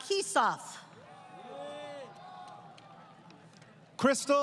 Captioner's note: crowd Cheering